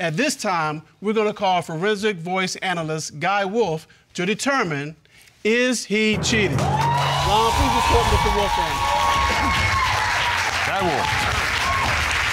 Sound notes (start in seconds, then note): 6.2 audience cheering; 9.1 audience cheering, applauding